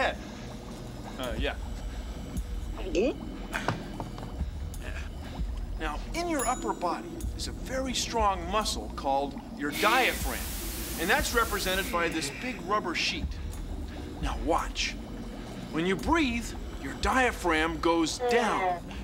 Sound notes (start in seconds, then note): 1.8 gulps